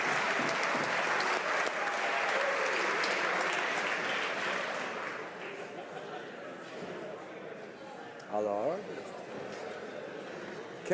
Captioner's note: applause